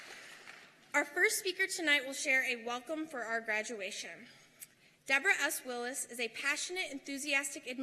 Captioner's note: applause